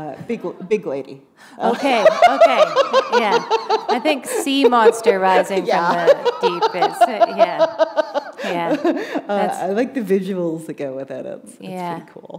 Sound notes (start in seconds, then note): 1.3 laughter